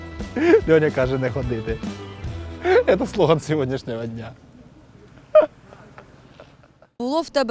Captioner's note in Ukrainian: смеется; смеется